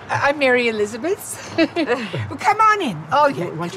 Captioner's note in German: lacht